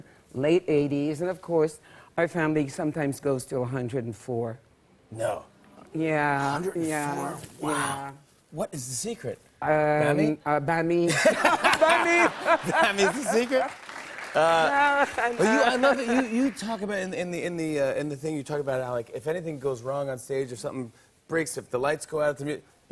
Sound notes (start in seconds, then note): 11.0 laughter; 12.6 applause